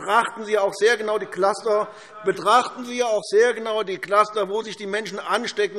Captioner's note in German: none